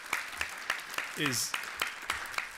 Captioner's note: applause